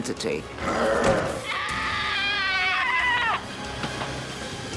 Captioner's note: screaming